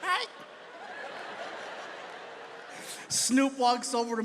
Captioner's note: audience laughs